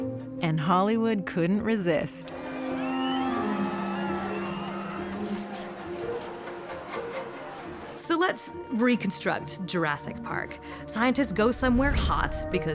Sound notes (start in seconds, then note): 2.2 fans cheering; 4.9 cameras clicking